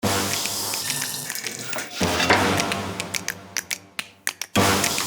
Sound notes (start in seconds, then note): 0.0 upbeat music; 0.2 food sizzling